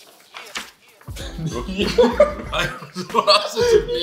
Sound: people laughing

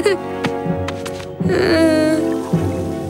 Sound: laughing; groaning

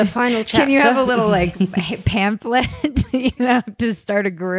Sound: laughs

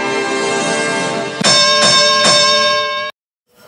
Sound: boxing bell ring sound

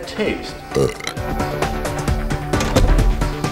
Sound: sound of burp

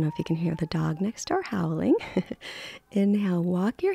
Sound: laughs

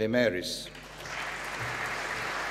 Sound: applause

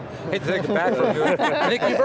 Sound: laughing

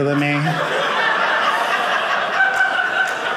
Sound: audience laughing

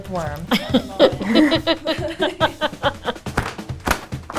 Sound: all laughing

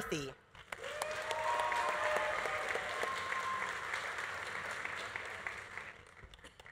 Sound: audience applauding; audience cheering

